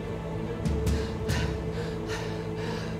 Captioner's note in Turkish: Nefes sesi